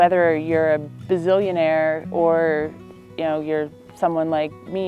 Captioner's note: voiceover